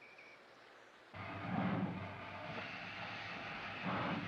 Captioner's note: recording of train departing